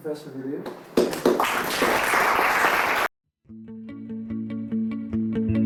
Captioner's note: applause